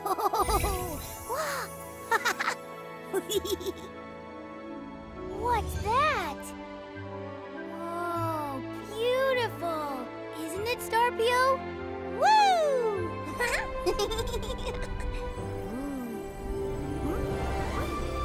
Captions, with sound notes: [laughing] Oh! [giggling] What's that? Oh, beautiful! Isn't it, Star Pio? Whoo! [giggles] Ooh!